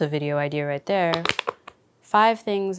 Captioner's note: container snapping